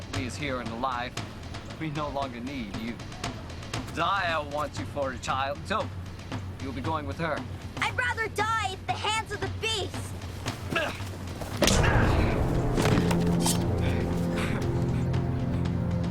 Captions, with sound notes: So, Otli's here and alive, we no longer need you. Zia wants you for a child, so you'll be going with her. - I'd rather die at the hands of the beast. (smack) (sword unsheathed) (laughing)